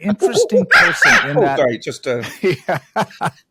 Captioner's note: imitates a monkey; laughs